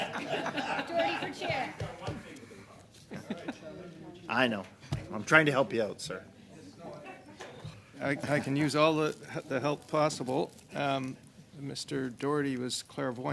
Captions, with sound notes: GIVEN THE PREVIOUS -- NOT TO TAKE AWAY YOUR JOB THERE, MR. CHAIR. BUT... [Laughter] >> I KNOW. I'M TRYING TO HELP YOU OUT, SIR.